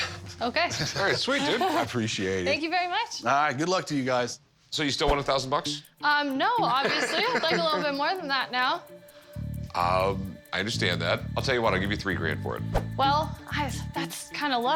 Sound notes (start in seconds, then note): 6.6 laughs